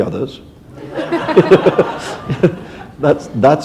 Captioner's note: laughter